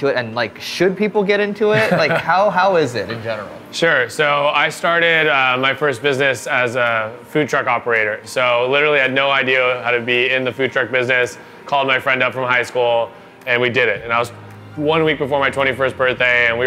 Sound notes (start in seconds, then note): 1.7 laughs